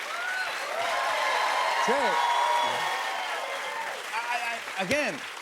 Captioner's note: cheers and applause